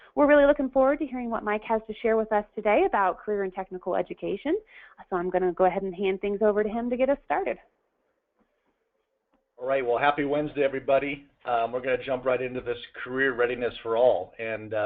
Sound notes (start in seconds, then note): 8.1 pause